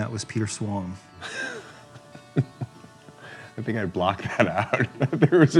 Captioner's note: laughs